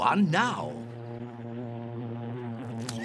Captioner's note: buzzing; slurps